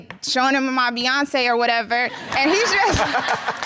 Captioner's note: audience laughing